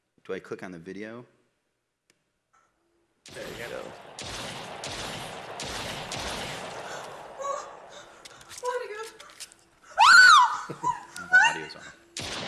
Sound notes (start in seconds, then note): 3.2 gunshots; 7.5 speaking Norwegian; 9.9 screams; 12.1 gunshots